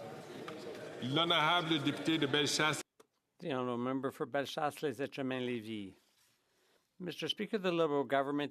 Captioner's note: speaking French